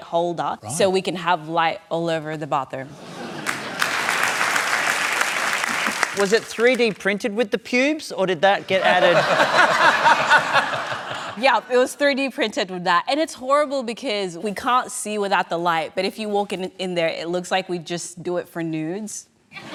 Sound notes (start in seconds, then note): 3.4 applause; 8.7 laughter; 19.5 laughter